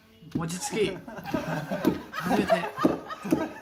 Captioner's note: everyone starts laughing